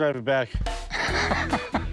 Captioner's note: laughs